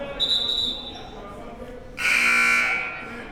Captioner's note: whistle blows; buzzer blares